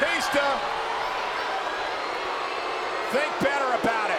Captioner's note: audience jeers